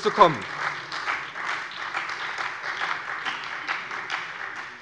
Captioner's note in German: Beifall bei der SPD